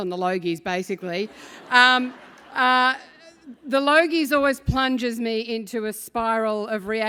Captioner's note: laugh